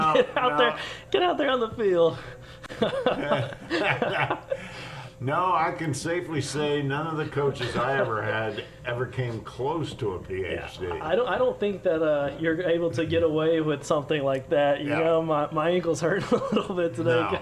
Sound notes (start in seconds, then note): 2.6 laughter